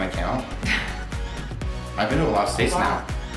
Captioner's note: laughs